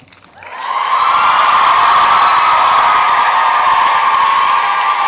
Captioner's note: applause and cheering